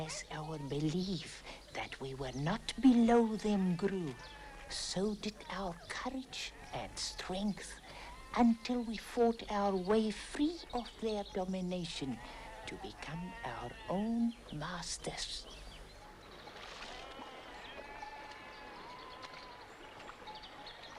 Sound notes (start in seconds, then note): 17.1 goats bleating